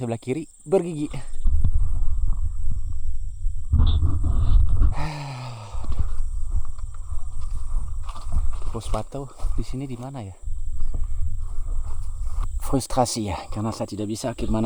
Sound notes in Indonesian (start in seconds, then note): 4.9 terkesiap; 4.9 menghela napas